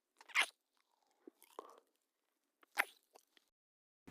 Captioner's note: kissing Sounds